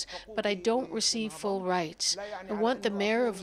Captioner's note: speaking Foreign Language